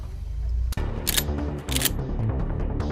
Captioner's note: Gun cocks